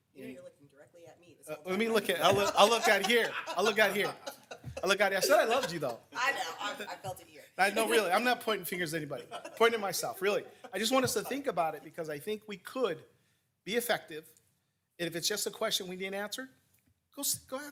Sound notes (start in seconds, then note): 1.8 people laughing